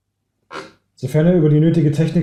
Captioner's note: chair creak